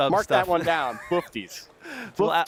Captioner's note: laughing